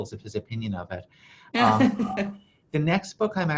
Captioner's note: laughs